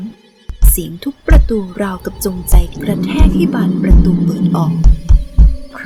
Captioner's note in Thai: เสียงทุบประตู